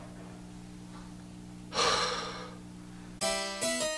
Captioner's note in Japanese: 溜め息